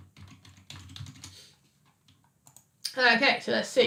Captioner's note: keyboard clicking